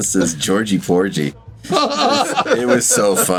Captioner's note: laughs